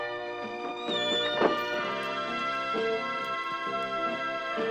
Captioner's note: door creaking